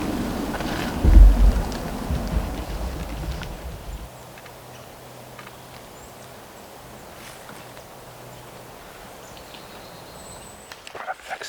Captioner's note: birds chirping